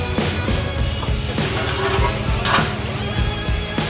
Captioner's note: metal scraping